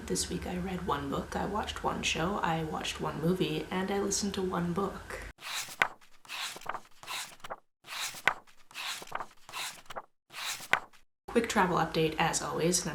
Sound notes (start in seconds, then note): 5.4 pages turning